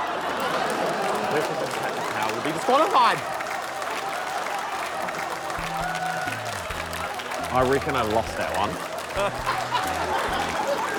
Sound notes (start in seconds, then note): 2.2 applause, laughter; 9.1 laughter